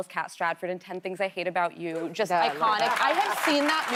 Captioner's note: laughter